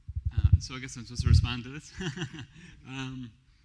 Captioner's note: laughs